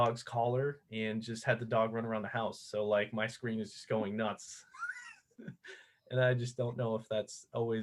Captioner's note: laughter